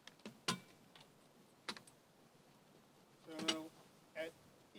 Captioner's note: poles clank